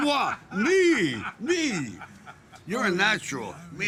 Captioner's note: group laughing